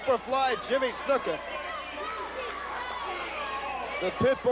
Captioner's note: crowd cheering